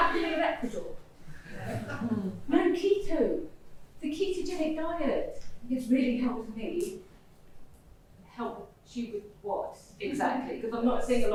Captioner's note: laughter